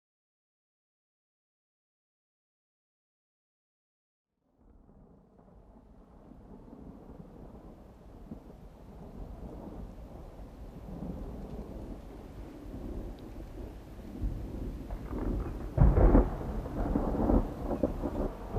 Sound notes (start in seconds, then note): 6.4 sound of rain falling; 15.1 lightning sound